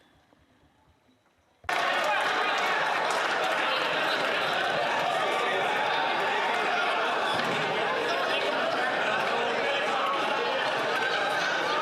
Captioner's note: some Applause